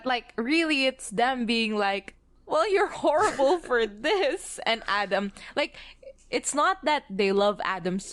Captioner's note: laughs